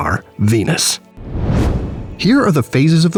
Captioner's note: whoosh